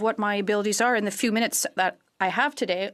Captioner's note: speaking french